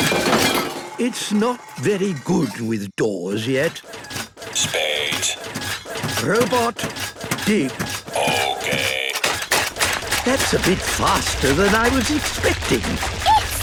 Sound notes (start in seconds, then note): 5.3 rattling